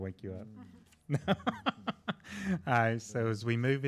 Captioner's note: laughing